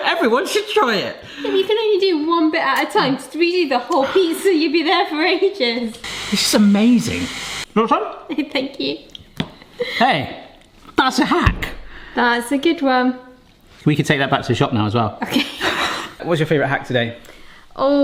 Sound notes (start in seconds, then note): 6.0 steamer hisses; 15.2 both chuckle